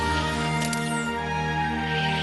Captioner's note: click